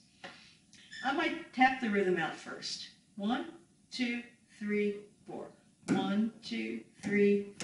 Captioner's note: counting and tapping